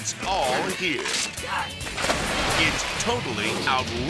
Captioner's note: water splashes; wood cracks